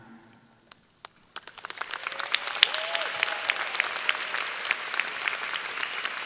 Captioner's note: audience applauding and cheering